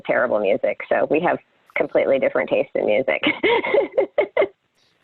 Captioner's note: laughs